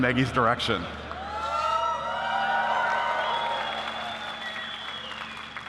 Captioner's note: applause